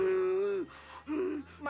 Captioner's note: wheezi ng